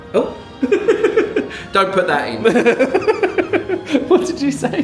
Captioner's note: laughs